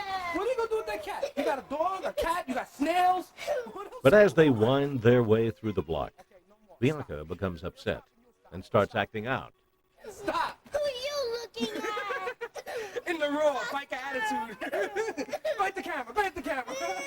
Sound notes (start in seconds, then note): 12.4 laughs